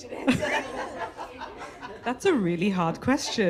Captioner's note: laughter